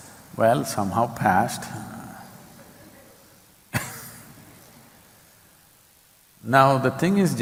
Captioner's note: laughs